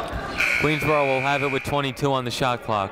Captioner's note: people shouting in the crowd; buzzer ringing